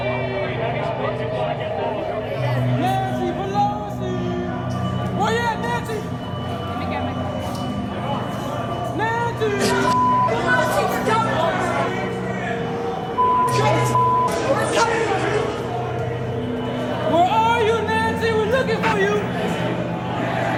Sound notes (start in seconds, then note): 13.3 people yelling